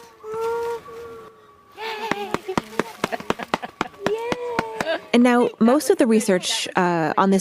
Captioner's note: claps